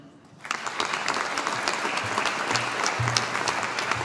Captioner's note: audience applauding